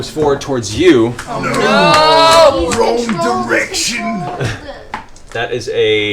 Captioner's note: Grog voice